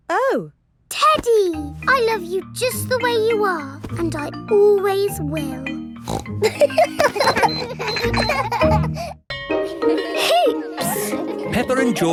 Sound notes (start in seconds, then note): 6.0 snorts; 6.4 kids laughing